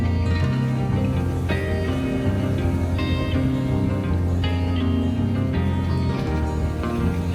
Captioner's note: sound of crashing waves increases